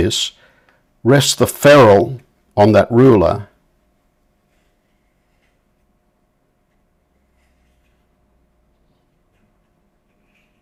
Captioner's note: silence